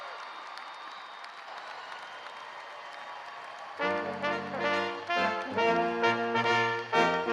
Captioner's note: cheers